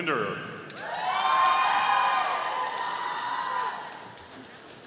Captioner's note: audience applauding